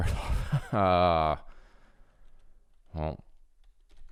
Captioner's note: chuckles